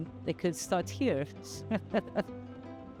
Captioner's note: chuckles